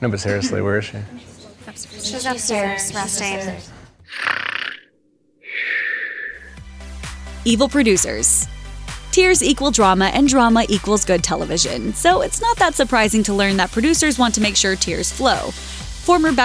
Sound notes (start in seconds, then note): 4.1 heavy snoring